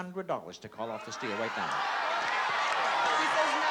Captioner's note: audience yelling